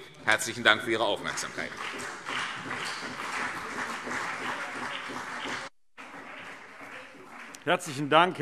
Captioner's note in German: Beifall CDU und BÜNDNIS 90/DIE GRÜNEN